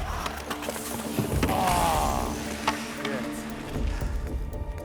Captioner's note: groans